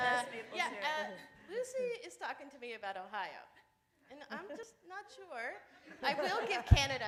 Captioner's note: laughter